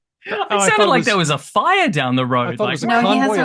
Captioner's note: laughs